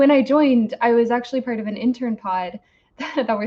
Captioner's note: laughs